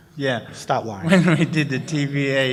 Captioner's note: laughs